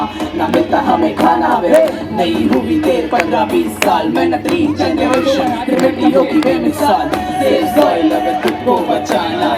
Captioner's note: speaks in Hindi - not transcribed